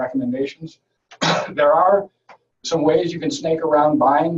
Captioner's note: coughing